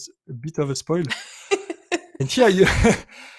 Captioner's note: laughs